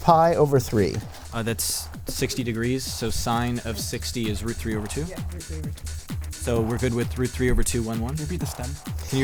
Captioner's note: whispering